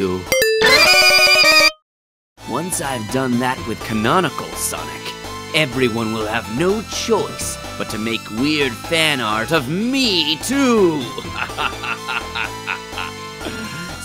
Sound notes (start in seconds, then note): 0.4 dramatic synthesizer music; 11.2 laughs